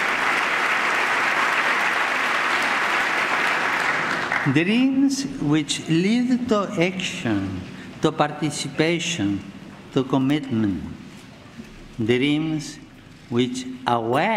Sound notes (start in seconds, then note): 2.9 applause